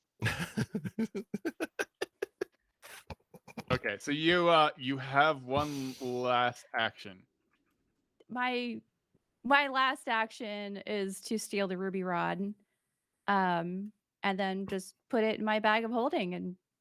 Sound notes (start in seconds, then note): 0.2 laugh